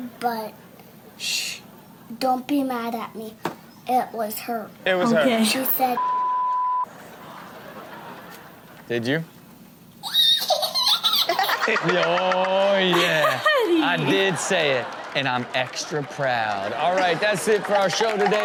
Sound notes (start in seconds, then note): 10.0 toddler squeals with laughter; 12.8 Chanel laughs